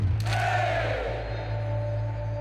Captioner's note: crowd